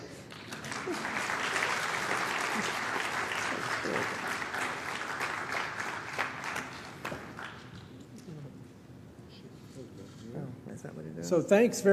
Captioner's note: applause